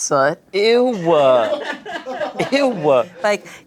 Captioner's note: everyone laughs